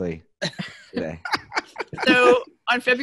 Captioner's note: laughs